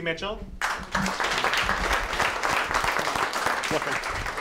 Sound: applause

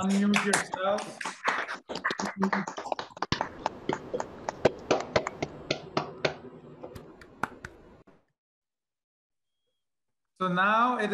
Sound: applause

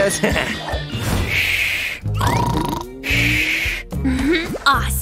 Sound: snoring

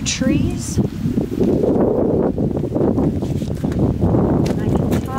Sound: strong wind blowing

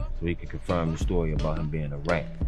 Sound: heart beating

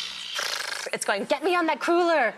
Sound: sizzles

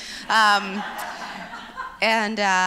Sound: laughs

